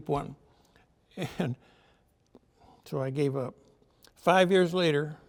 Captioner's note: chuckles